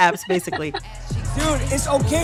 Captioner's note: soundbite of tv show, "beef"